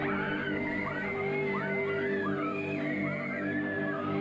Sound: patrons screaming

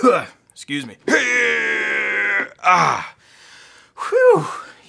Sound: coughing; grunting

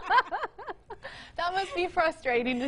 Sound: all laughing

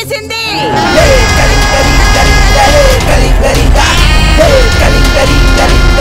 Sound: hooting

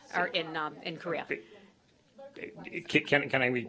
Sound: off-mike

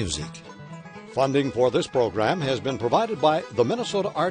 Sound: voiceover

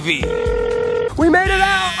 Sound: line calling

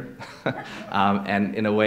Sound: laughter

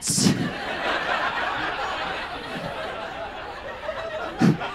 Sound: audience laughs

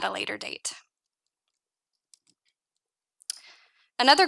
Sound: mouse clicking

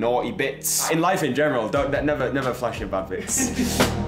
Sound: laughs; upbeat music

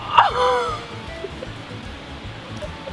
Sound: laughs

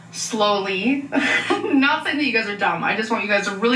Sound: chuckles

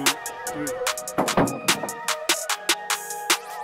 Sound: wood clanking; upbeat hip music

